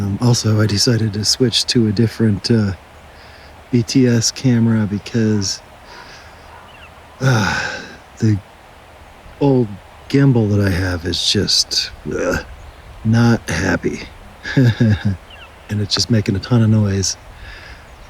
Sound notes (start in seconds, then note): 13.5 laugh